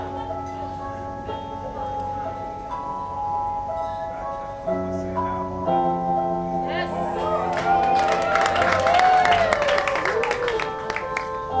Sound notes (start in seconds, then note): 6.9 cheering and clapping